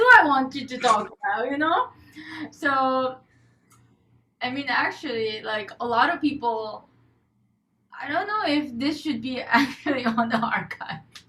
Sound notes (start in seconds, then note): 5.5 laughs